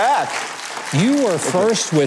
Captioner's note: audience applause